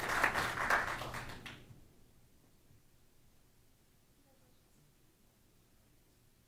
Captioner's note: applause